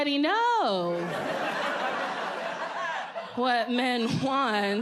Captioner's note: audience laughs